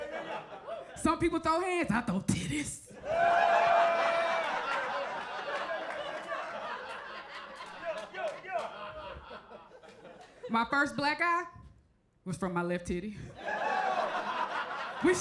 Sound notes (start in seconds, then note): 0.0 crowd laughs; 2.9 crowd laughs; 3.1 crowd member 1 yells; 13.3 crowd laughs